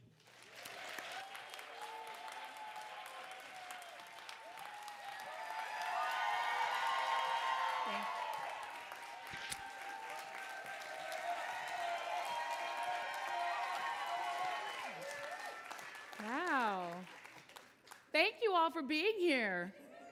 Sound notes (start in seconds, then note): 0.3 audience applauding; 4.8 audience cheering; 13.4 audience cheering excitedly